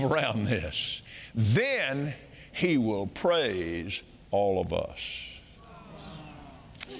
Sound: audience marveling

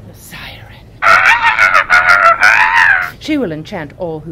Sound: screeching noise

